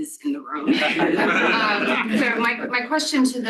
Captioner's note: laughter